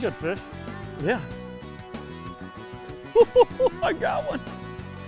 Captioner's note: laughs; upbeat rock music